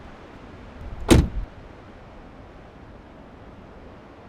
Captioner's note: car door slams